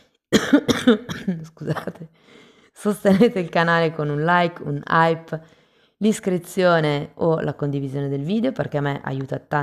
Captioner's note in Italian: tosse; risate